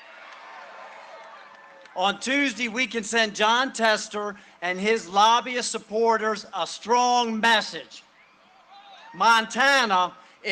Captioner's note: cheering and applause